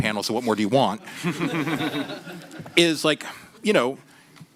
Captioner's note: laughter